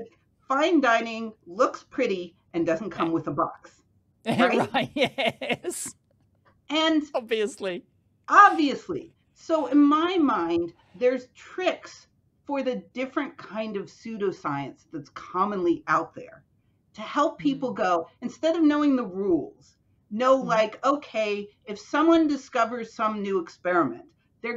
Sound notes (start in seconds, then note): 4.2 chuckling